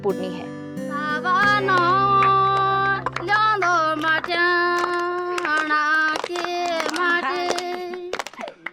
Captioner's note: regional language